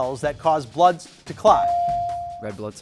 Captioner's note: buzzer dings